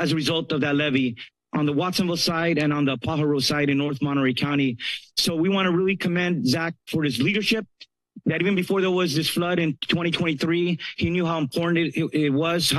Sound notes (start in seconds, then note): none